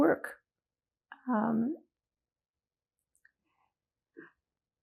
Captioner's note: pauses 6 seconds